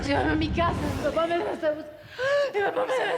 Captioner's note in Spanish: sollozos